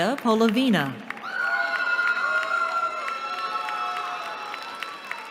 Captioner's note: cheering